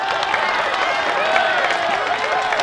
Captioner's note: cheers and applause